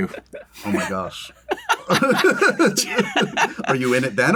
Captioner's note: laughter